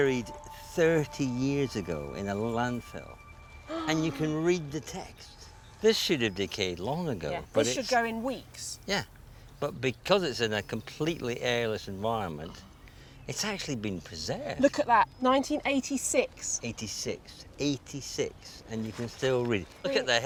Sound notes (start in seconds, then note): 4.3 gasps